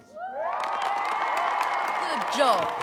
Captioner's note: students cheering